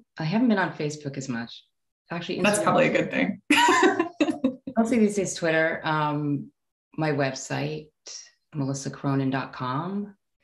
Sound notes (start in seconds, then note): 3.6 laughing